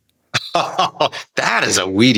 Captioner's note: laughing